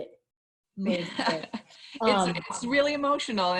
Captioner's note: laughing